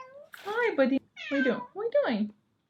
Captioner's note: sad MEOW